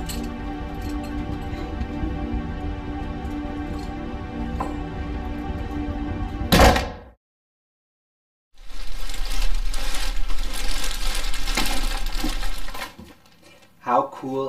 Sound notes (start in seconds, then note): 0.0 ominous music playing; 6.5 door slams; 8.6 rustling sound